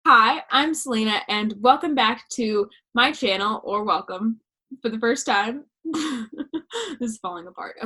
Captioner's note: laughter